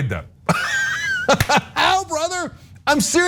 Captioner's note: laugh